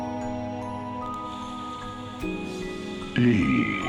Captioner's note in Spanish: El televisor se enciende